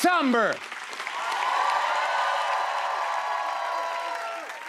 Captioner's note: cheers and applause